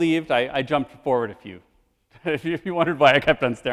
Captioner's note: laughs